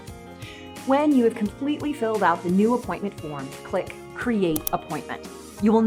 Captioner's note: mouse Click